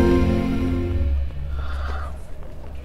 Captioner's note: Sighs